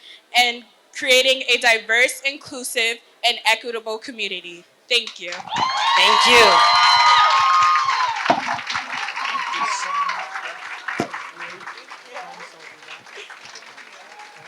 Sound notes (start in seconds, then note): 9.1 applause